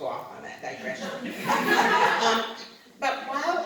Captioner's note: laughter